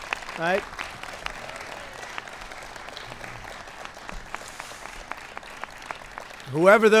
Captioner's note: applause